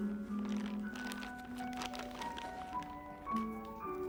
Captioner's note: paper rustling